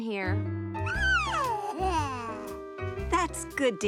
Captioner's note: cooing